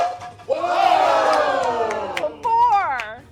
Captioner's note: cheering